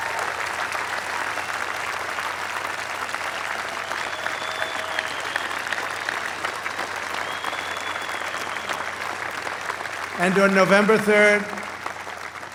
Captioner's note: applause